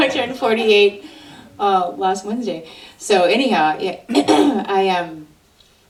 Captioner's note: clears throat